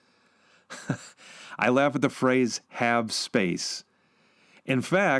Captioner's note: laughs